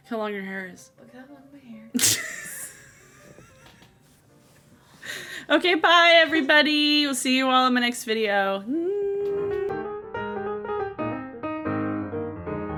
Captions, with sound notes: - How long your hair is. - Look how long my hair is. - (laughs) Okay, bye, everybody, will see you all in my next video. (upbeat piano music)